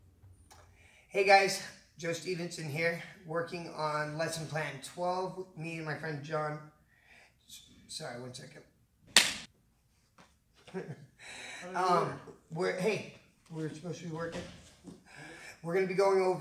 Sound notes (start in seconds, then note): 9.1 claps